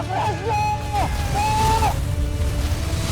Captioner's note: screams; evil energy whoosh & crackle